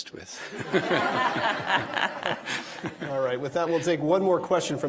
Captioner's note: audience laughing